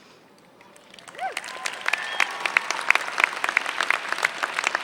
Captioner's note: applause